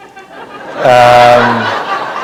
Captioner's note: laughter